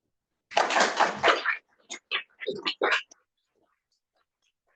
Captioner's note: audience applauds